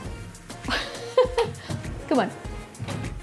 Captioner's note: laughs